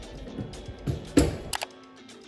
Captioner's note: closes oven door